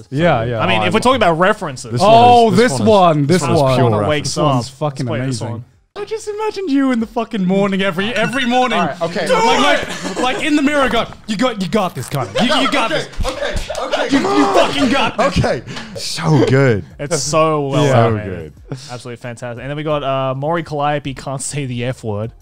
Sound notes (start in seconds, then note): 12.1 punching sound